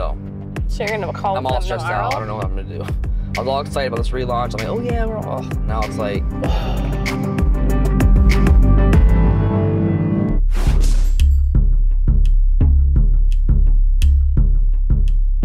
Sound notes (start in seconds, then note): 6.4 sighs deeply; 7.9 pensive music